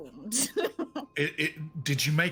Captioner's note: laughing